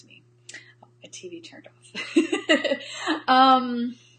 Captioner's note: laughs